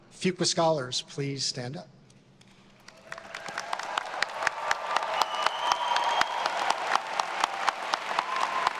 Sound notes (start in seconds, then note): 2.8 everyone applauding; 2.8 attendees cheering